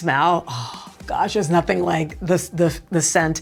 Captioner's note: sighing